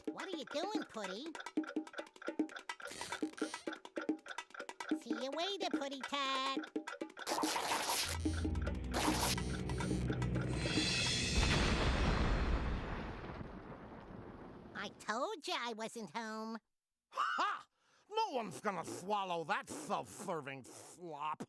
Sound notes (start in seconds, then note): 2.2 clock ticking